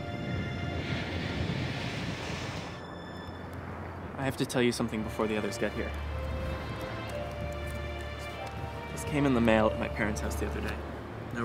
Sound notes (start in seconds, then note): 1.8 waves crashing